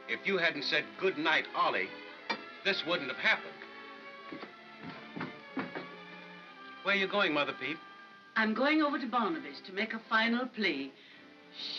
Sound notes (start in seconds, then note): 4.2 Mother Peep's footsteps